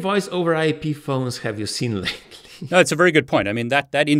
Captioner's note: laughs